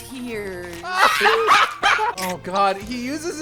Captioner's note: laughter